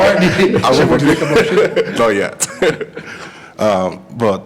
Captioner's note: laughter